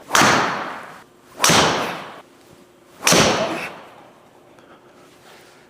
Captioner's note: club smacks wall repeatedly